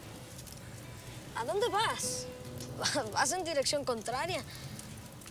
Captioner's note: Spanish spoken audio